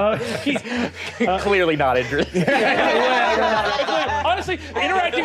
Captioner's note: players laughing